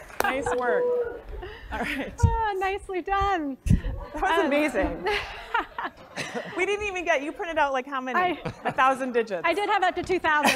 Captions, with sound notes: >> Nice work, all right. [LAUGH] >> Nicely done. >> That was amazing. >> [LAUGH] >> We didn't even get, you printed out how many? >> 1,000 digits. >> I did have up to 2,000-